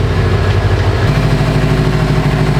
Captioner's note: engine revving